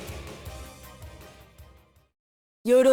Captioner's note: silence